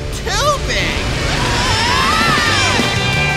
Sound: screaming

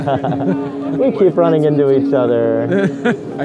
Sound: laughing

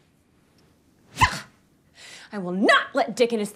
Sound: racket whooshes

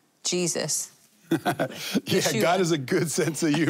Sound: laughing

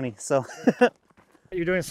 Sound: chuckles

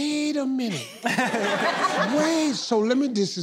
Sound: laughing

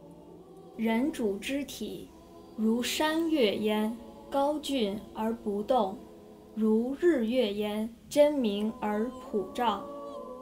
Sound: speaking Mandarin

